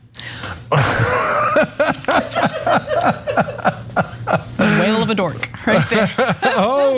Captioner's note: laugh